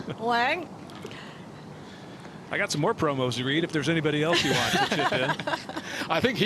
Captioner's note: laughter